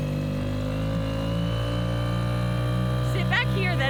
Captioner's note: engine roaring